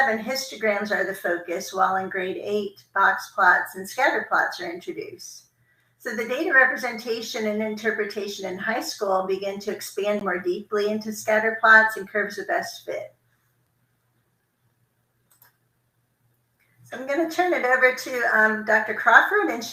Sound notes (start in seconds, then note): 15.2 computer mouse clicking